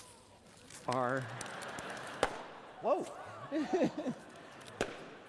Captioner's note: laughter